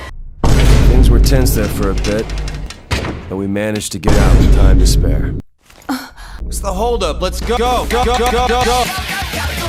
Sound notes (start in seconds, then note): 0.4 Vine boom sfx; 4.1 Vine boom sfx; 5.9 Phi gasps